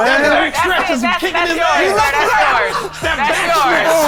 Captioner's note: chatter